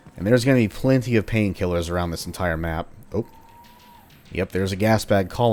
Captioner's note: Gasbag Colony moaning